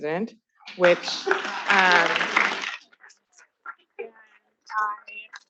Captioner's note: attendees applauding